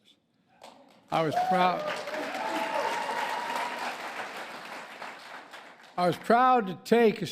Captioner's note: applause